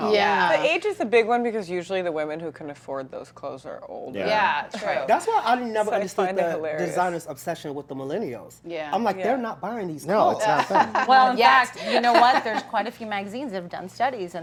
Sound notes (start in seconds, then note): 10.5 laughter